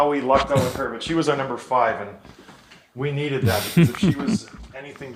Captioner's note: laughs